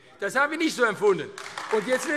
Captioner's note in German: Beifall AfD